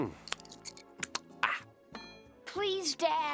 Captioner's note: smacking